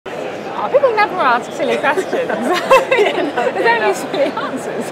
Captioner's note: laughs